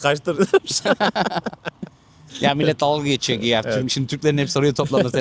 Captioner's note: laughs